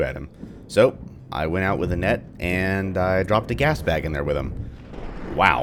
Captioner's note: thunder